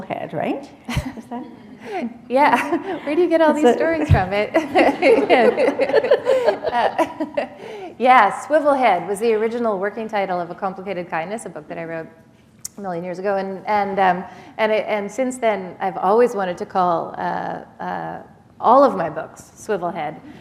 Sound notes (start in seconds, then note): 2.8 chuckle; 7.3 laughter; 20.2 laughter